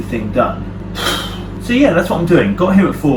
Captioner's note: sighs